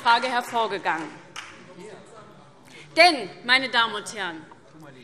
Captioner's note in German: Beifall SPD